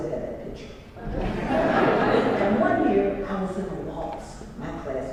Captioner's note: laugh